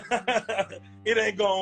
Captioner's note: laughs